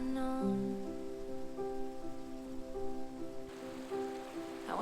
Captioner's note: water bubbling